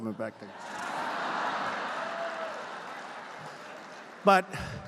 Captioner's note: laughter